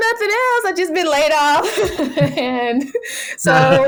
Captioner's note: laughs